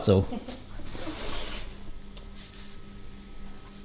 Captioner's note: chuckles